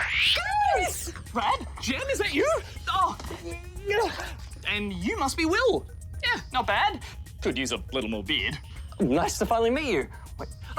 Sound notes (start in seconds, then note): 3.4 grunts